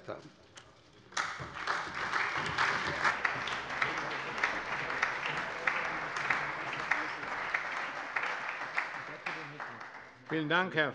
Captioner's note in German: Allgemeiner Beifall